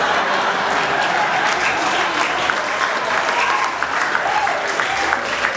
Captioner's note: applause